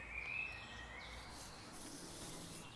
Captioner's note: birds chirping